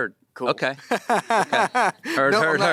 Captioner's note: laughs